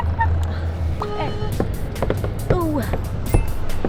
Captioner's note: revving up